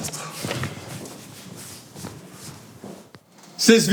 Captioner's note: footsteps